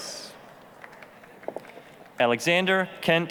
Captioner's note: applause